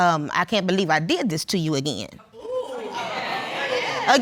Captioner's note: audience gasp